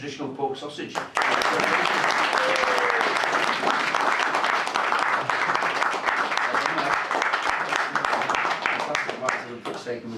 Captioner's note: clapping